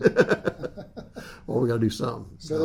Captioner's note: laughs